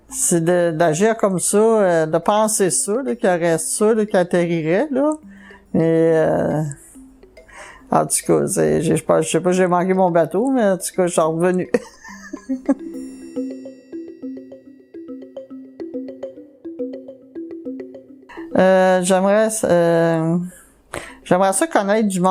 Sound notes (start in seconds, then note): 11.7 laugh